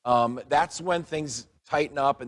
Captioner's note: none